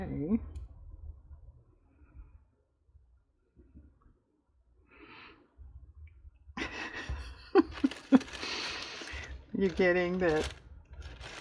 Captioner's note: laughs